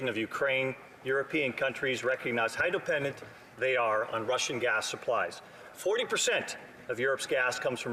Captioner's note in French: voix de l'interprète